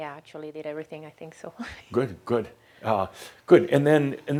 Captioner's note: she chuckles